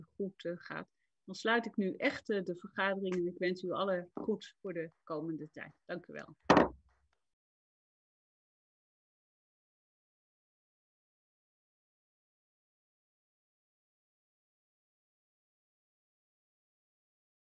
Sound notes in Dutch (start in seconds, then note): 6.4 Voorzitter klopt met hamer